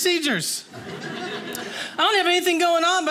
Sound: audience laughing

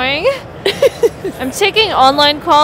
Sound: laughs

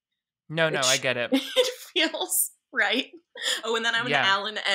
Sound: laughs

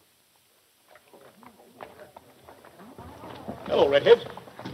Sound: people chattering

